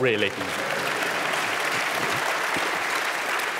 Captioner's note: applause